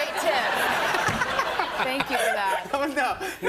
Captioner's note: laughter